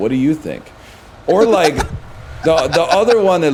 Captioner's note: laughs